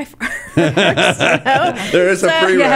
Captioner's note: laughing